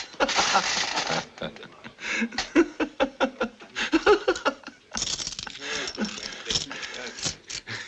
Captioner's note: يضحك